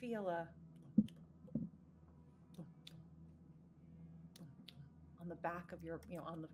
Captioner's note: mimicking heartbeat